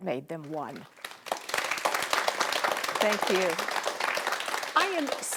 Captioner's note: audience applauding